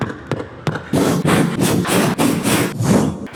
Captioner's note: heavy breathing; whooshing